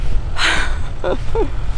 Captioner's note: laughs